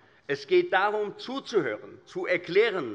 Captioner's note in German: none